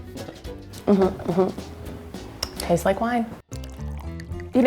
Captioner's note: smacks lips; wine pouring